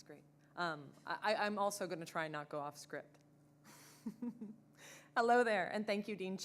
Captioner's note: chuckles